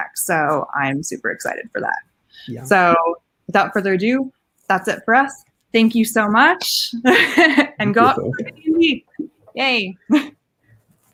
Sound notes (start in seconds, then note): 7.0 laughing